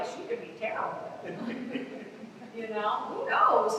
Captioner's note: laughter